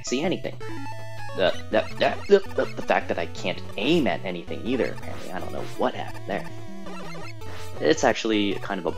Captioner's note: spluttering